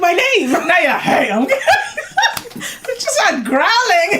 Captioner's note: laughs